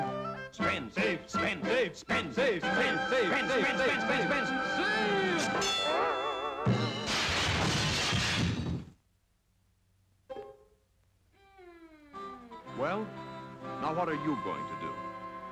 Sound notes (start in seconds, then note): 5.2 bell Rings; 6.6 crash